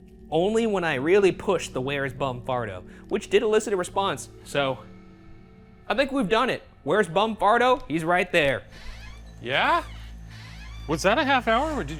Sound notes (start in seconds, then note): 8.4 door creaks